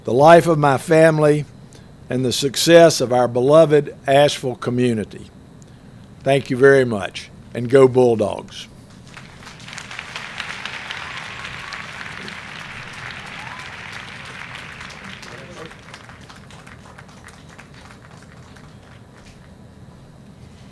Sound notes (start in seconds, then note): 8.9 applause